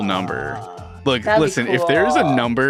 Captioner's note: groans